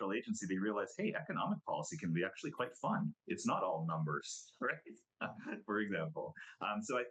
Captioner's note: laughs